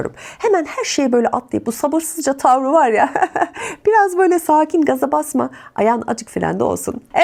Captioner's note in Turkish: kahkaha